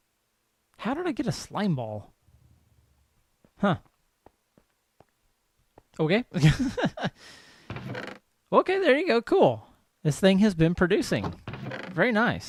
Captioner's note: laughs